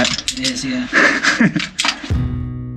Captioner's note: laughs; dramatic music